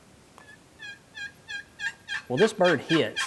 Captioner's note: turkey gobbles